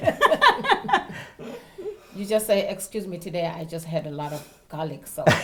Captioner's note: laugh